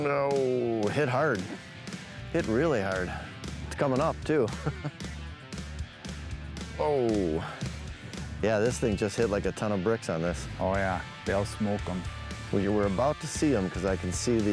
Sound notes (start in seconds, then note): 4.4 chuckling